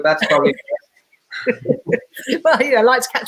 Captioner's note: laughing